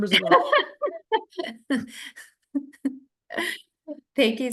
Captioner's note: laughing